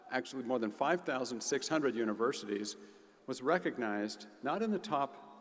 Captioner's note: none